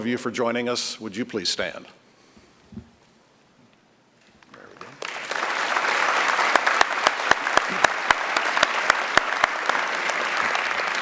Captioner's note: applause